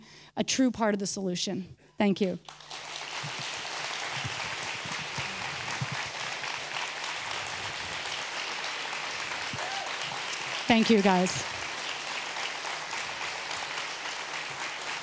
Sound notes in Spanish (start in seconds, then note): 11.1 Aplausos